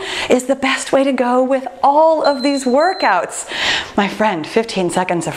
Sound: timer beeping

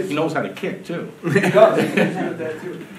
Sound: audience laughing

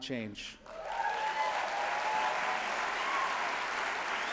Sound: applause

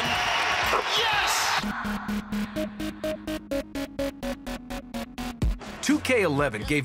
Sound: cheering

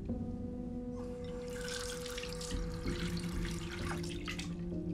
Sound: water rushing

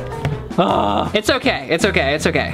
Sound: groans

